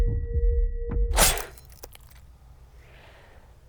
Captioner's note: ripping out knife; squelching; heavy breathing